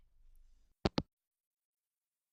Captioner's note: hangup